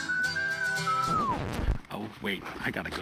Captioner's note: whip cracking, Western music playing; record scratch